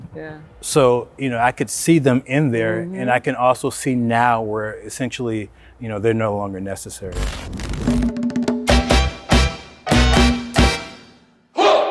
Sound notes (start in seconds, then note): 7.1 television static